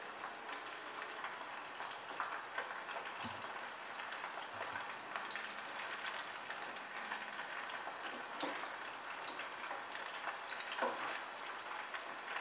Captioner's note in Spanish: Crepitación